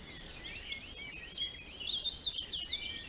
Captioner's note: birdsong